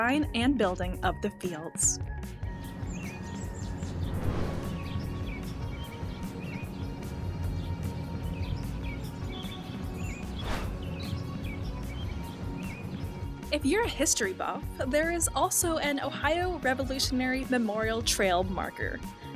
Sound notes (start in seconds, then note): 2.8 laid-back music continues; 5.2 birds chirping